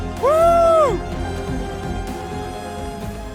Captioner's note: runner shouting